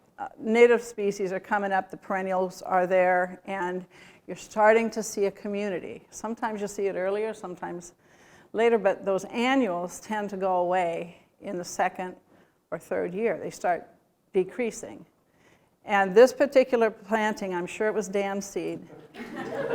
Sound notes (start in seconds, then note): 18.9 laughter